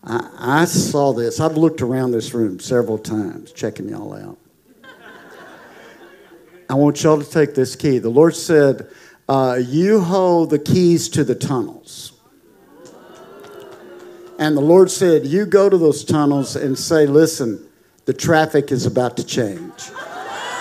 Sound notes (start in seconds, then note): 4.6 congregation laughing; 12.8 congregation applauding